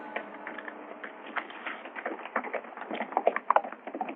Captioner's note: horse galloping